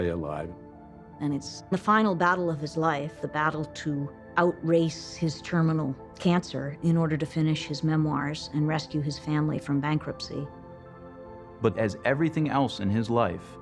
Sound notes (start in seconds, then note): none